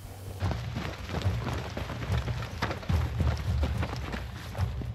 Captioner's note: footsteps crunching